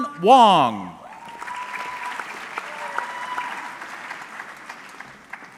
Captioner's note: audience clapping